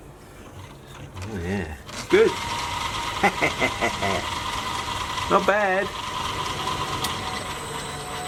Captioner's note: evil laugh